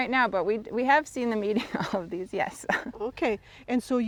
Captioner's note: chuckles; chuckles